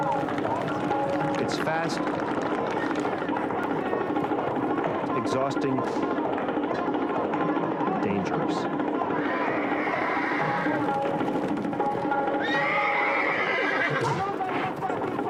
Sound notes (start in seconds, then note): 9.0 horses neighing; 11.5 upbeat instrumental music